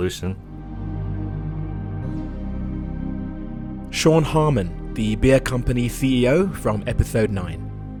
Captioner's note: voiceover